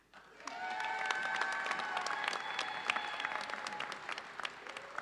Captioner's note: audience cheers and applauds